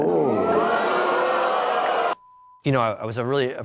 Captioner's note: audience exclaiming